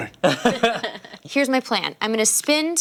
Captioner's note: laughter